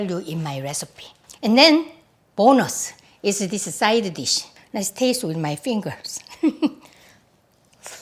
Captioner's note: laughs